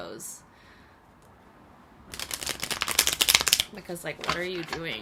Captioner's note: shuffling